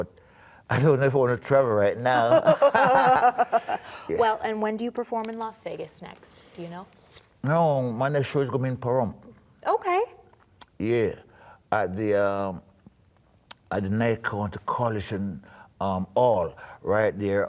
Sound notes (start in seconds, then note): 2.1 laughter